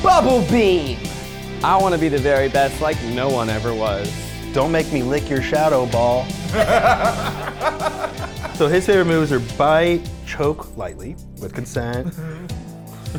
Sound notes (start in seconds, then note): 6.4 laughing